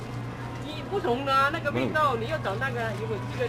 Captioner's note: mandarin